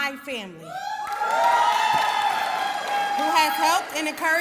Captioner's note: cheering